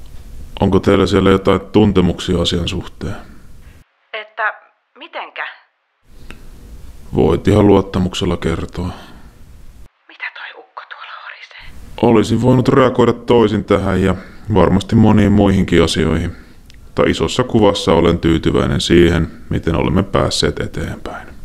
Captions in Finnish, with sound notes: Onko teillä siellä jotain tuntemuksia asian suhteen? Että mitenkä? Voit ihan luottamuksella kertoa. *Kuiskaa* Mitä tuo ukko tuolla horisee? Olisin voinut reagoida toisin tähän ja varmasti moniin muihinkin asioihin, mutta – isossa kuvassa olen tyytyväinen siihen, miten olemme päässeet eteenpäin.